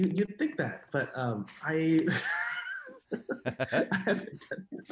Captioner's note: laughs; laughing